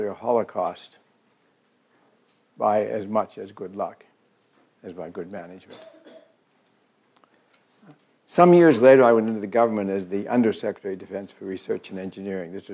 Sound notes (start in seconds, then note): 5.6 cough